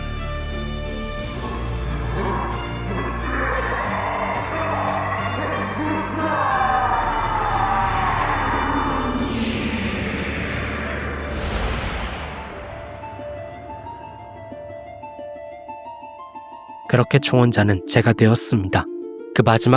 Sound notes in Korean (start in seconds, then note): 4.3 비명; 4.3 신음